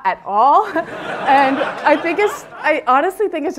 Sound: laughter

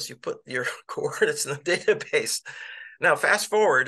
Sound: laughter

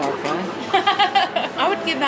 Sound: laughing

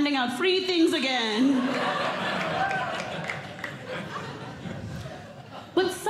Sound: audience Laughing

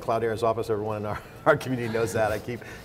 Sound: laughing

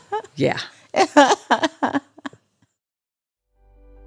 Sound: laughs

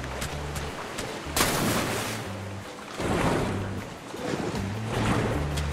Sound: water sound

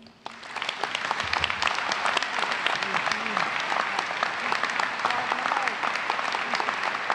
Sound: applause

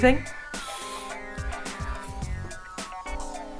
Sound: sniffs

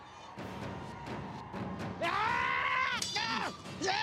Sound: screams

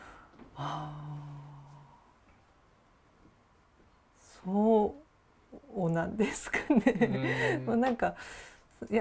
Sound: laugh

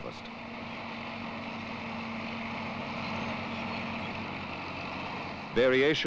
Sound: sound of machinery

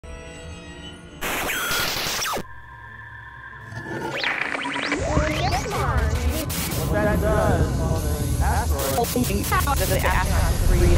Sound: sound Effects

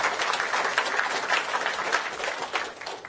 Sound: applause

